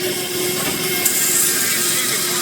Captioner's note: drill whirring